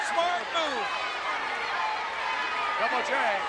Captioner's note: audience chattering